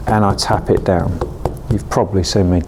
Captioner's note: plant pot knocking